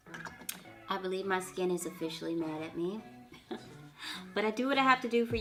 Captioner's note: laughs